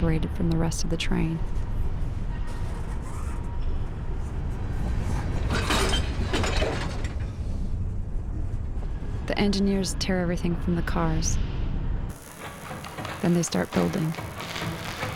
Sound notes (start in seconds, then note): 5.3 clank of cars coming together